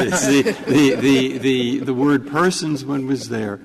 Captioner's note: laughter